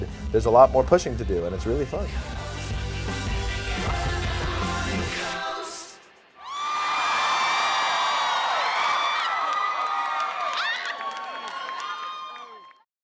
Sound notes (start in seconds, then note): 6.4 audience cheering and applause